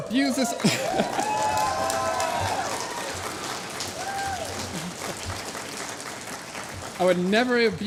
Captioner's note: applause